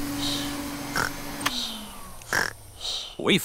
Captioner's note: snores; whirring stops